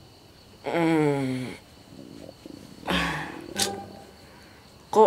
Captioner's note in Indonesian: Bunyi suara perut Hoho